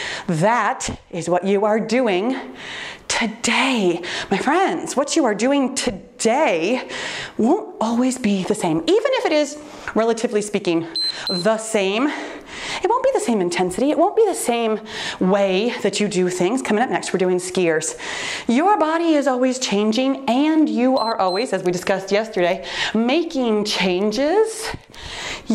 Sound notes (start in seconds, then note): 10.9 timer beeps; 20.9 timer beeps